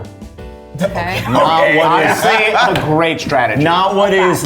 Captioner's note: laughs